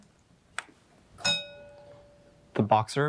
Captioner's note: bell dinging